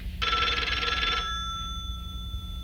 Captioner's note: phone rings